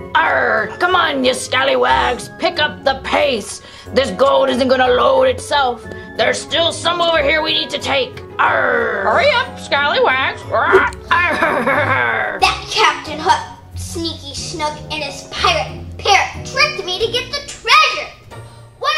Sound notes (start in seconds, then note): 10.6 squawks; 10.7 Hook chortles